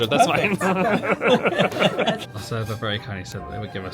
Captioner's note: laughs